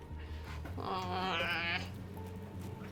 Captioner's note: whining